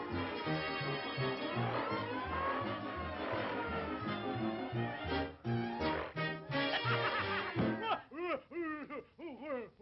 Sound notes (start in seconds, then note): 6.5 laughs